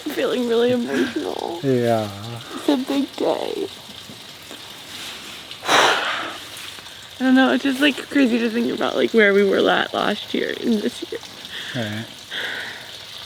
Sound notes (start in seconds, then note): none